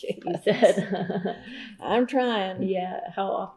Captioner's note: laughs